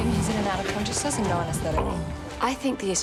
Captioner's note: patient groans